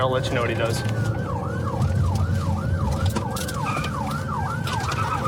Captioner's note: siren wailing